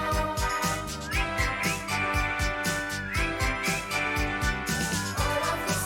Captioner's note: whistling